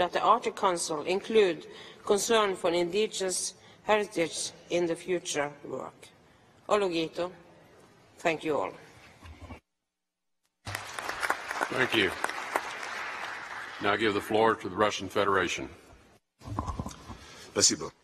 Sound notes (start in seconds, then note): 7.0 speaks in a foreign language; 10.6 applause; 17.8 speaks in a foreign language